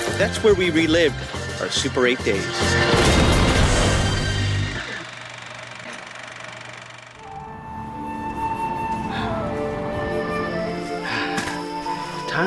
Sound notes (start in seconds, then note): 2.8 explosion; 7.2 soft music